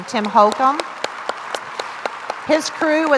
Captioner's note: crowd applauds